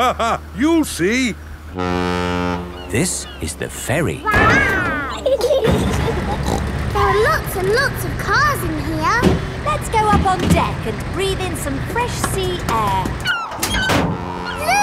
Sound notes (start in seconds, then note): 0.0 laughing; 1.7 ferry horn blows; 4.3 giggling; 5.9 snorts